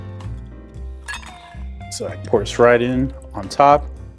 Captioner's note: ice clinks